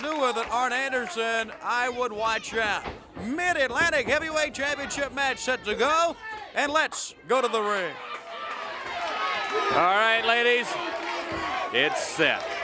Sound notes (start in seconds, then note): 6.9 crowd cheering